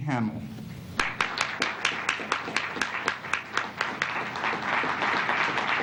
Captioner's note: applause